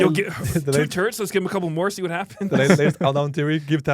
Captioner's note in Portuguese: risos